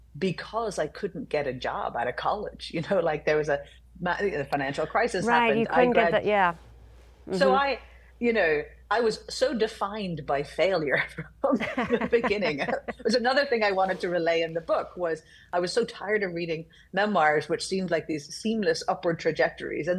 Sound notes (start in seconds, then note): 11.5 laughing